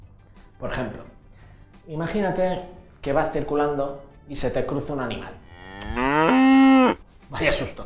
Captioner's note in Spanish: se oye mugido de una vaca